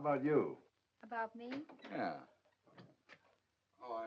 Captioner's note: door opens